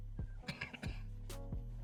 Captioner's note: cough